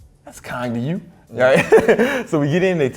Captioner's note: laughs